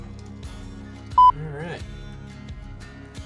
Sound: beep

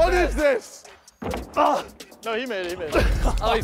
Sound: contestant grunting

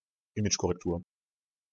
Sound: fast Pronunciation

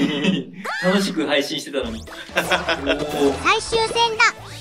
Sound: laughs

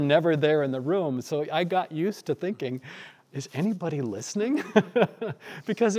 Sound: laughing

